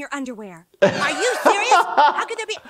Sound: laughs

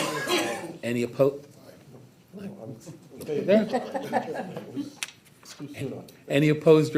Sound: scattered chuckling

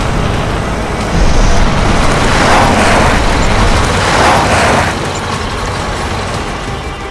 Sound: jeep Engine Pull Up Sounds

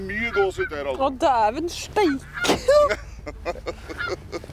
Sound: giggles

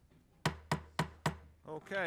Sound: gavel knocking

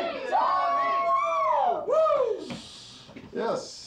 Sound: people cheering

